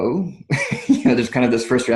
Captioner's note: laughs